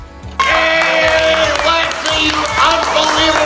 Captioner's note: cheering